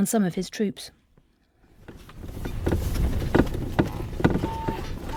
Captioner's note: footsteps